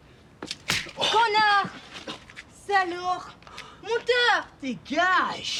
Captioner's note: speaking in foreign language